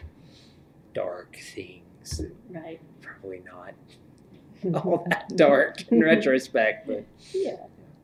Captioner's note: laughs